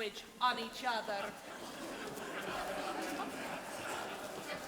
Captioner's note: audience laughing